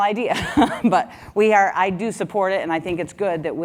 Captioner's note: laugh